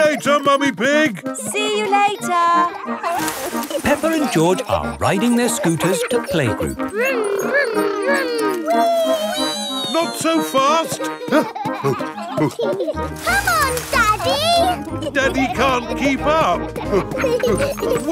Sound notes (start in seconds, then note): 2.7 peppa and george laughing; 10.7 panting; 11.8 peppa and george laughing